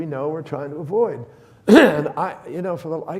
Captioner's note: clears throat